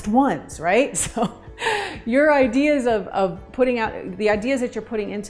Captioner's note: chuckles